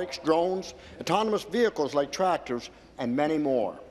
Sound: none

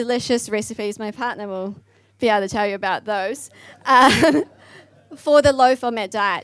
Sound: laughs

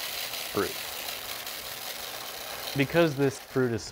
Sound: seeds clattering

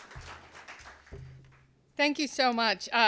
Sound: applause

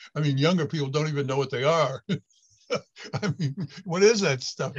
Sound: laughs

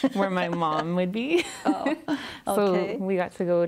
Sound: laughs

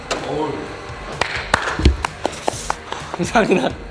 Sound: getting applauded

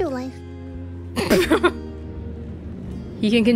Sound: chuckles

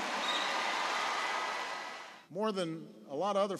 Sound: applause

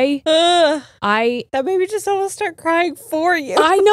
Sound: groans

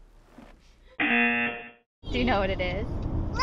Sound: buzzer rings

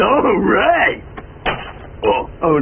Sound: crash

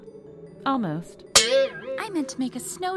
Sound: spring boings

